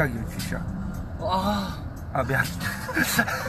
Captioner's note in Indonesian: menghela napas